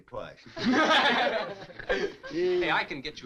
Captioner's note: all chuckling